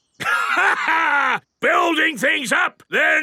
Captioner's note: laughs